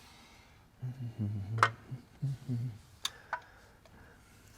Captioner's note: humming